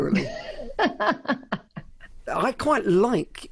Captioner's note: laughs loudly